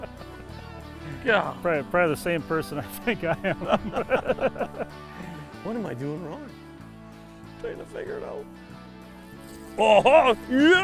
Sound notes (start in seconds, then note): 0.3 laughs; 3.0 laughter